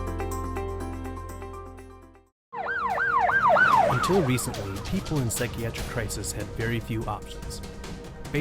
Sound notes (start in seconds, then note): 2.5 siren beeping; 2.8 dramatic music